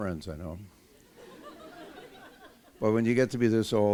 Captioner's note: laughter